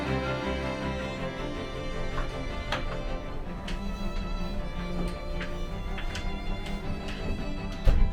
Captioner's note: the wood door clatters and creaks open